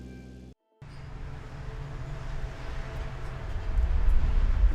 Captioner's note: cars driving